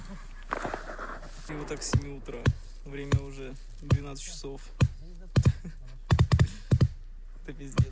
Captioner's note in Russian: смеется